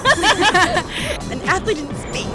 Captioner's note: laughter